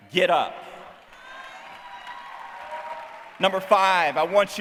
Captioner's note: cheering